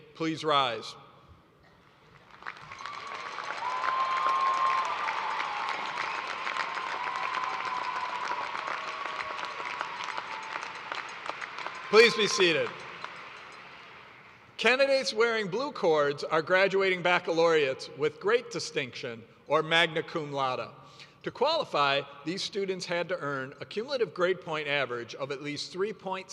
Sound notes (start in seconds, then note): 6.0 cheers and applause